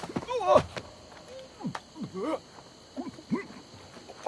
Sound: choking sounds

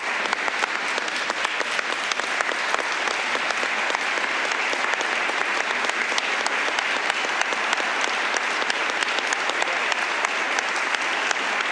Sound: applause

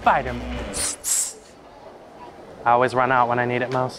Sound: imitates web slinging

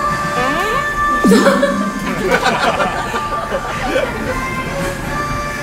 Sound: laughter

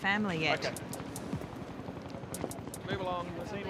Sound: helicopter flies overhead

